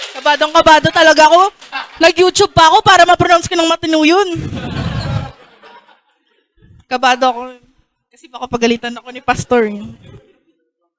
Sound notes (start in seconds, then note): 0.0 applause; 4.4 laughter